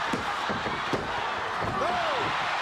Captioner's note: hand pounding